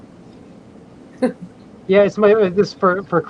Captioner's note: chuckles